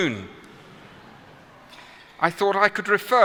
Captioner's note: laughter